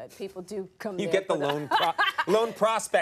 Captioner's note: Jada laughing